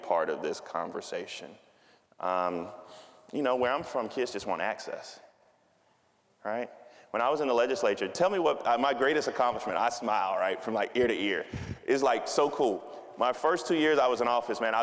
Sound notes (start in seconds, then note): none